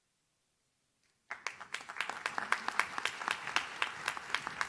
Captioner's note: audience claps